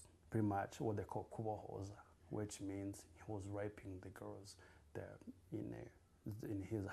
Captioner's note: non-english